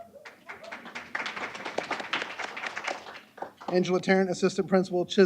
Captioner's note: applause